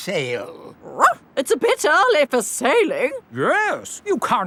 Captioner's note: barks